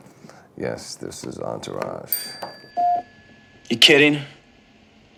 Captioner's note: bell rings